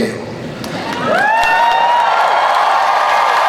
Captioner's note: cheering